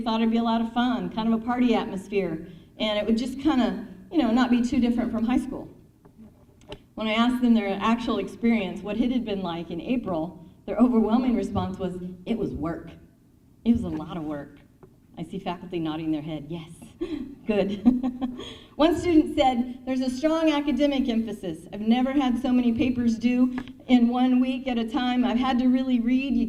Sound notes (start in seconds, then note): 17.0 chuckles; 17.0 laughs